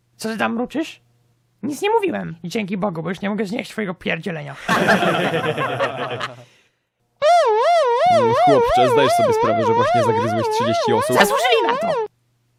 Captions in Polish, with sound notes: Co ty tam mruczysz? Nic nie mówiłem! Dzięki Bogu, bo już nie mogę znieść twojego pierdzielenia. [śmiech] [syreny policyjne] - mmm chłopcze, zdajesz sobie sprawę, że właśnie zagryzłeś 30 osób? - Zasłużyli na to!!!